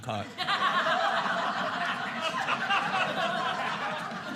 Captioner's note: audience laughing